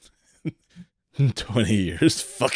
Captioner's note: laughs